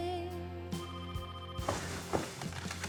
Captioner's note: phone ringing